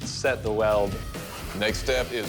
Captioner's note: machine whirring